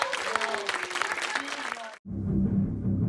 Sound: crowd applauds

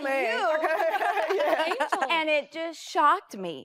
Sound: laughs

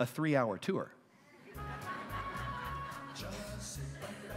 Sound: laughter

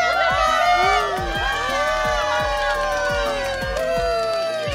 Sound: cheering

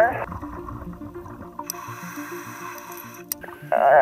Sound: inhaling air

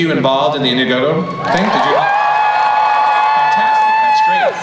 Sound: crowd cheers

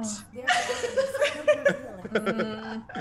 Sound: laugh

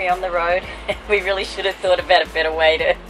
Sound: laughs

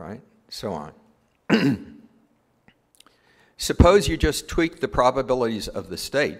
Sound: cough

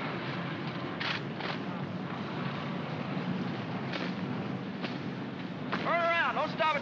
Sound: jeep rumbles

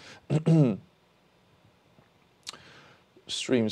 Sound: clears throat

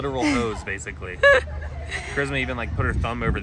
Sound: laughing

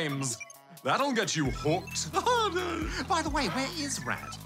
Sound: laughs

